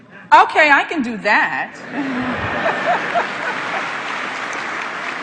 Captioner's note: laughter